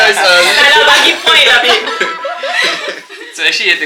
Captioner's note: laugh